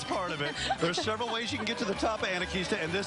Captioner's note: laughing